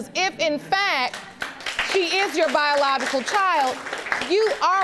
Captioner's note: audience clapping